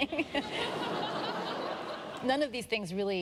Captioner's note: laughter